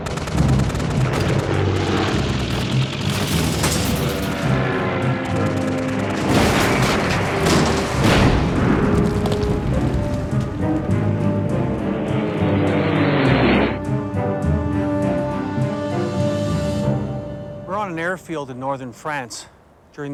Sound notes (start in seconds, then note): 0.2 guns firing; 3.2 metals clanking; 6.3 plane thuds; 10.7 buoyant music; 13.3 plane engine roaring; 14.5 buoyant music